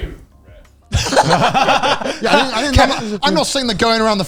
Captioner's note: all laughing loudly